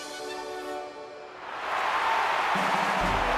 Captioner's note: cheering